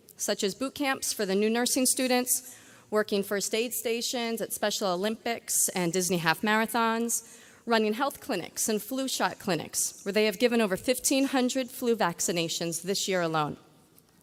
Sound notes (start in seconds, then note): none